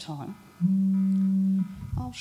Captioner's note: phone vibration continues